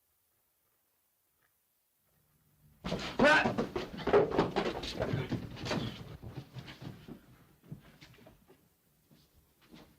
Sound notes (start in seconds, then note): 2.8 feet racing & struggling; 5.4 sounds of struggling